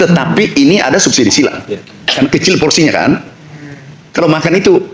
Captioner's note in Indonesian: berdehem